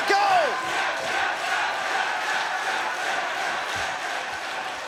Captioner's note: crowd chants "Tap"